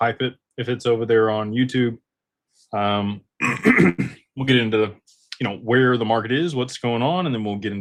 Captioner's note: clears throat